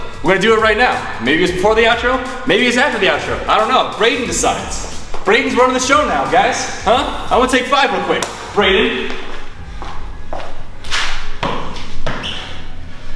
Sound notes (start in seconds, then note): 8.9 footsteps pattering